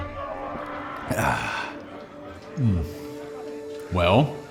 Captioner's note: gulp of drink